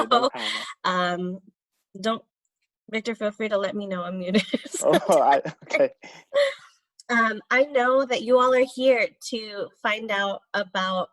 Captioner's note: laughter